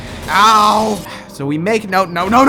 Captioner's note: exhales